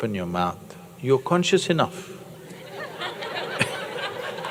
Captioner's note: laughter